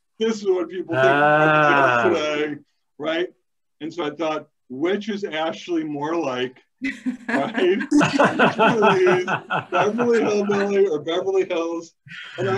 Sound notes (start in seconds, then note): 6.9 laughing